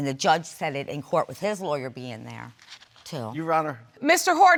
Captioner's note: scoffs